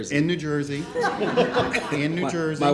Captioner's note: laughing